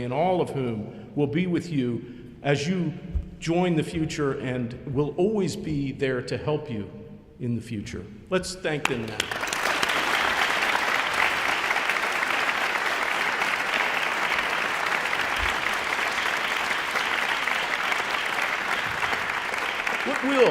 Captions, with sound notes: and all of whom will be with you as you join the future and will always be there to help you in the future. Let's thank them now. (audience applauding)